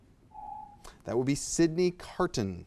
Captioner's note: alarm echoes